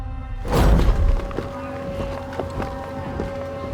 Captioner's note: footsteps